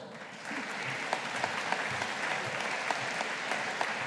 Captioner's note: audience applauding